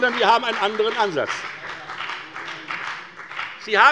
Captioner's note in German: Beifall bei der FDP